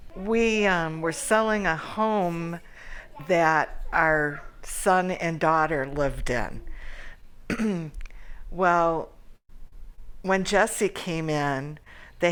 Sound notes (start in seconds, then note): 7.5 clears throat